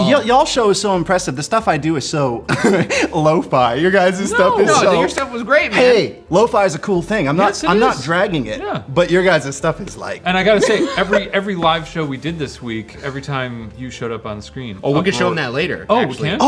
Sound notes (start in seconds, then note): 2.5 chuckleS; 10.5 chuckles